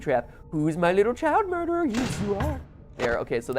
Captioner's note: thud